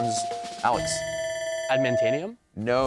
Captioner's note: bell ringing